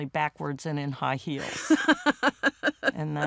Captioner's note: laughs